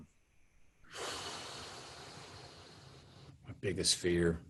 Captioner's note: Matthew exhaling